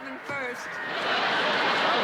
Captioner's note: laughter